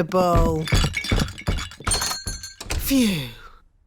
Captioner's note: thumping